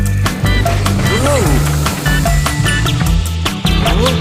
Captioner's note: man gasping; train whooshing